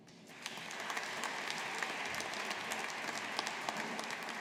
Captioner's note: audience applauding